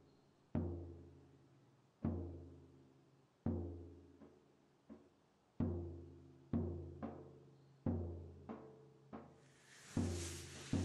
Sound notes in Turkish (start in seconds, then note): none